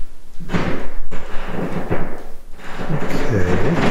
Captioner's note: floor creaking